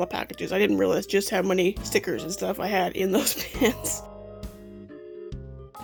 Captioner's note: laughs